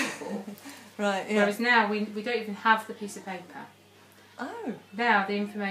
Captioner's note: both laughing